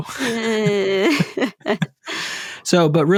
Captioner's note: lough